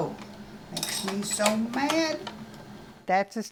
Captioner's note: machine clicking